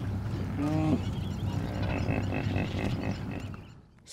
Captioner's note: a hippo grunts